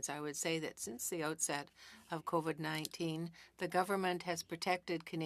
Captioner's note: speaking French